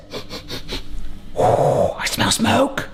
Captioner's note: sniffing